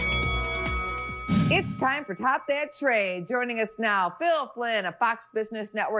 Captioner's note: bellringing